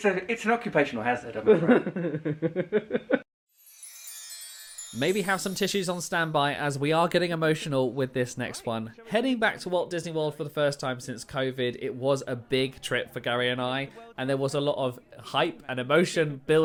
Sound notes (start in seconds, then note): 1.4 laughs; 3.5 magical music